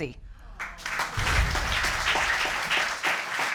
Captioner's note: audience applauding